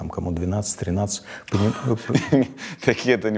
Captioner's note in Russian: смеется